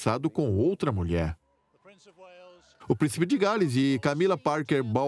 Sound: voiceover

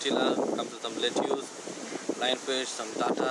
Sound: wind blows

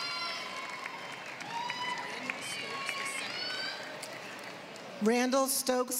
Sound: applause

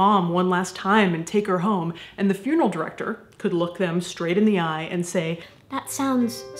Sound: high pitched voice with classical music

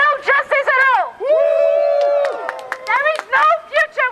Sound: crowd cheers

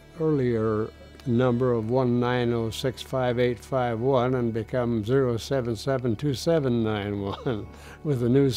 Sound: chuckles

